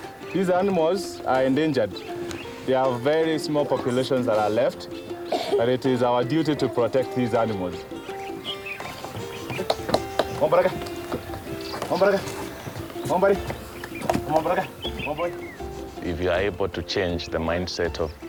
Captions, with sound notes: These animals are endangered, there are very small populations that are left. And it is our duty to protect these animals. (speaking in foreign language)